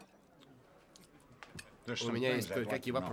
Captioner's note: silverware clanks